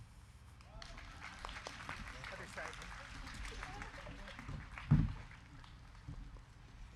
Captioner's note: crowd clapping; crowd cheering